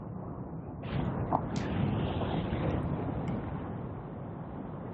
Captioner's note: wind blowing